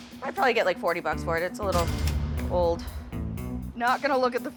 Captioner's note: cash register dings